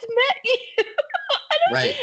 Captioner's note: laughing